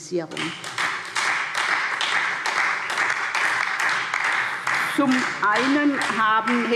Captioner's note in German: Beifall